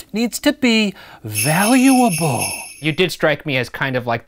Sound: sleigh bells

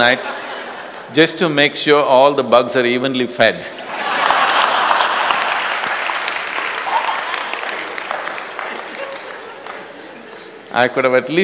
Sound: laughter; laughter/Applause

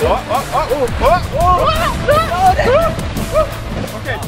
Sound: shouting

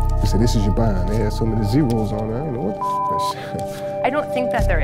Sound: beep

